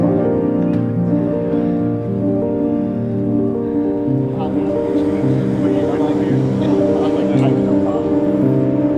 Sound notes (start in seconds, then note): 3.3 indistinct chatting